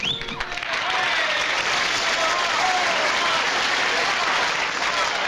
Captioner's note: applause